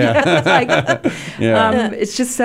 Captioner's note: laughing